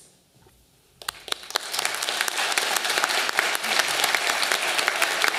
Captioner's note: audience applauding